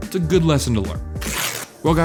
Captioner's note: paper tears